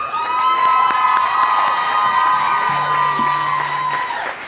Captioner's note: applause